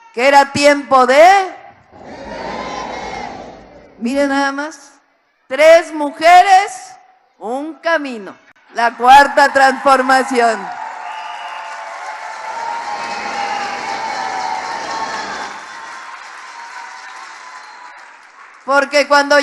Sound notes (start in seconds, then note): 12.2 applause